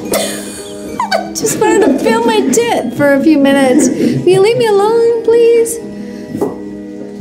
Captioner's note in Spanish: risas